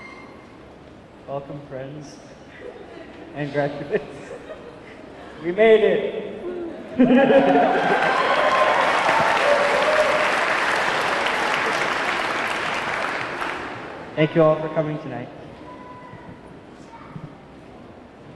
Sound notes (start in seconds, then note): 3.8 chuckles; 6.4 chuckles; 7.0 audience clamoring; 7.4 audience clapping